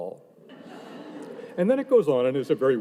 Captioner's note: audience laughing